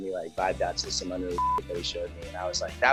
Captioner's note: beep